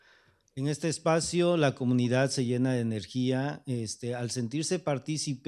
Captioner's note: speaking spanish